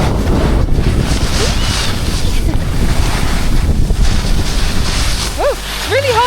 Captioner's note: wind rushes; squeals excitedly